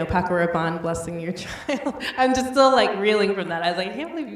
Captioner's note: laughs